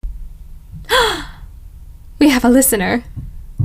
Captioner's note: gasp of pleasant surprise